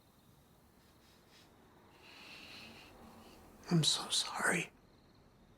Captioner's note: sniffles